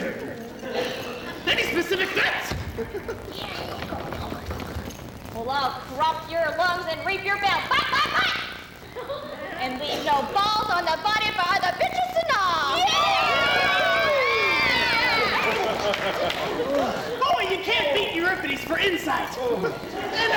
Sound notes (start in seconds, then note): 0.0 men voice agreement; 3.5 women whisper; 12.6 women cheer